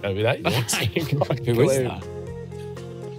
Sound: everyone laughing

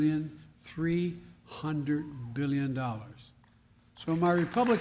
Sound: applause

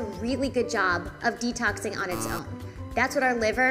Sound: buzzer buzzing

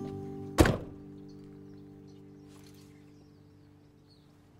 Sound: birds chirping

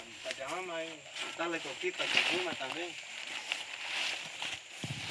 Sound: people chattering

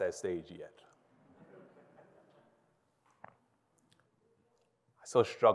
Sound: audience chuckles

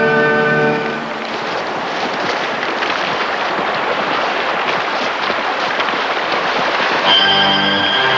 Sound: boots stomping

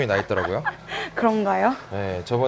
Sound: laughs

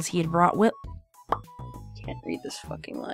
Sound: pop

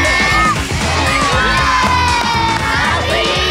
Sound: everyone cheering

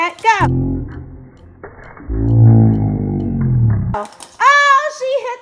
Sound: slow motion sounds

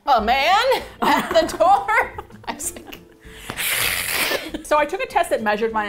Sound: both hiss

